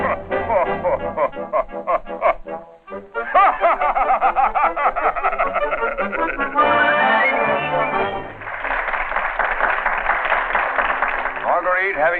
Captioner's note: laughter